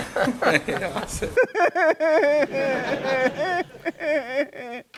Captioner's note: mockingly laughing